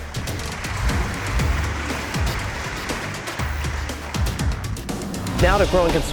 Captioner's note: music, louder applause